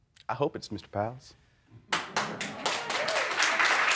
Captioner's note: applause